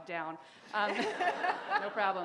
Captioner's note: laughter